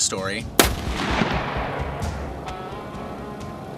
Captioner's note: gun fires